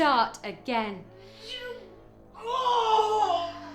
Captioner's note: moaning